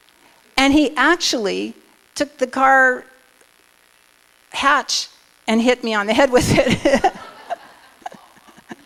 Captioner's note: laughter